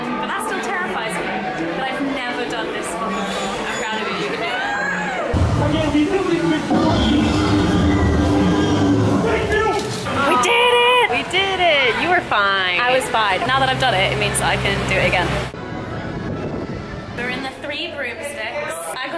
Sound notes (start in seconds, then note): 4.8 squealing; 6.6 roaring